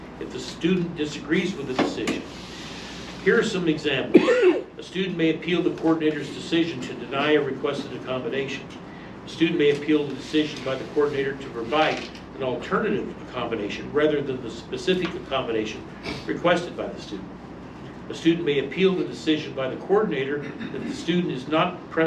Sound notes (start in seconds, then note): 4.1 male audience member coughs; 21.8 stammers